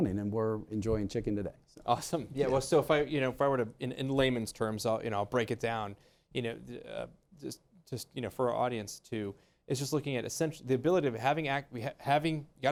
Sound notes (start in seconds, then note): 2.4 laughs